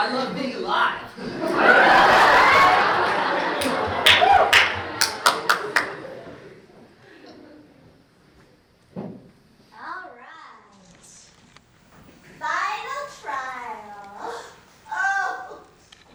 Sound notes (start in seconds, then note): 1.2 laughter